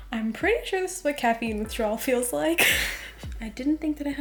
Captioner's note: laughs